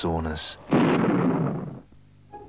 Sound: thunderclap

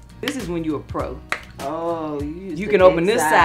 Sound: sound of lid popping open

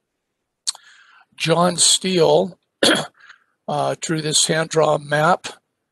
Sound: cough

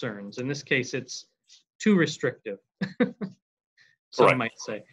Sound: laughs

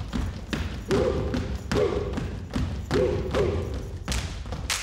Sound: group yells

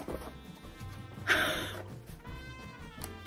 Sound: gasp

